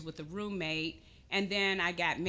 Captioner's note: none